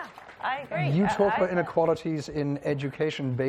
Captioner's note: applause